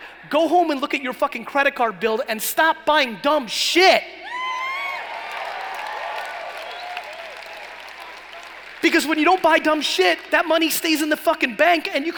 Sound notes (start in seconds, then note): 4.3 cheering and applauding